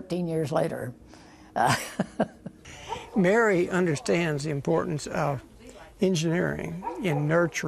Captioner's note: laughter